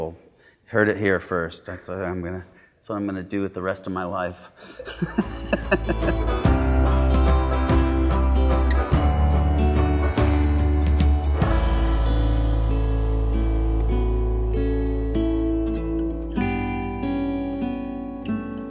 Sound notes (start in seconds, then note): 4.6 laughing